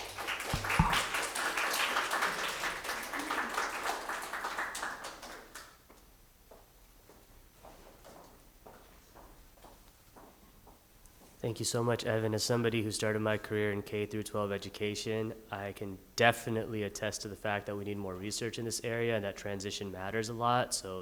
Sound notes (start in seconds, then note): 0.0 audience applauding; 6.2 footfalls echoing